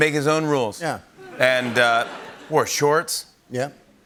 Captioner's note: laughter